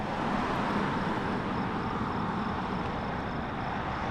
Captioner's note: car engines whir